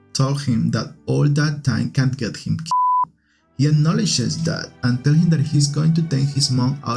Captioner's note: beep